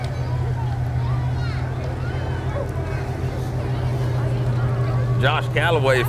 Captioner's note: people chatter; revving continues